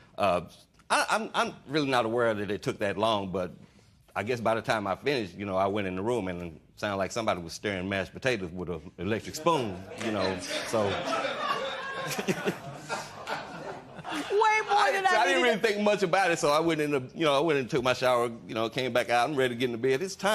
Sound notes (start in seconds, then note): 9.9 laughter